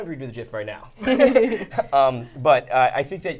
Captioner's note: both laughing